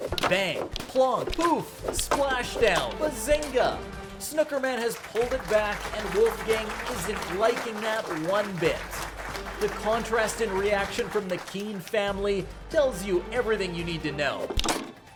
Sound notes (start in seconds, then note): 8.7 dramatic music; 8.9 audience claps